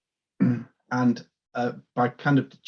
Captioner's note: clears throat